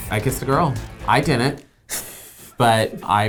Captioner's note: snorts